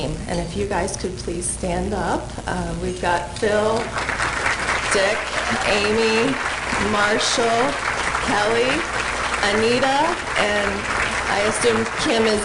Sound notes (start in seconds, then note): 3.8 applause